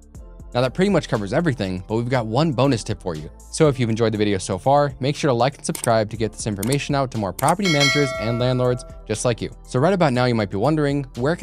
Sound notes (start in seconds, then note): 6.6 mouse clicking; 7.6 bell dinging; 7.6 keyboard clicking